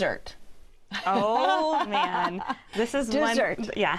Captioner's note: laughs